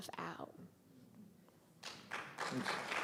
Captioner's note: applause